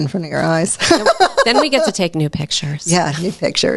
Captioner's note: laughs